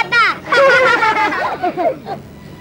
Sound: laughs

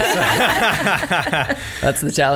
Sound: laughs

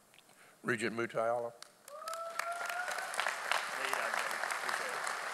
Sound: audience applauding

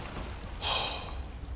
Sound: sigh

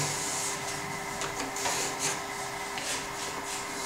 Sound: quiet machine whirring in the background

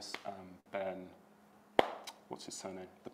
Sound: hands clapping

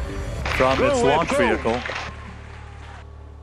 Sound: background cheering

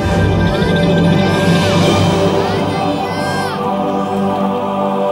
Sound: bell Ring

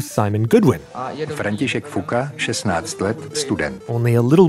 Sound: speaking Czech

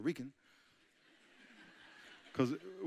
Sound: audience chuckling

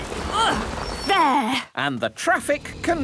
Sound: grunts

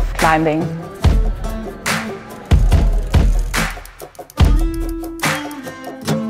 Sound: upbeat music; gears spinning

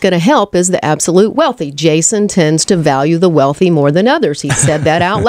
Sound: LEWIS laughs

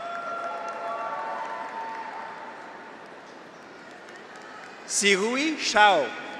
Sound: audience applauds; graduates cheer

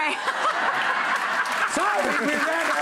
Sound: crowd laughing

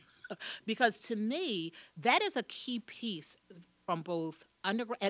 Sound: laughing

